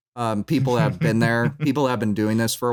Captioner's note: chuckles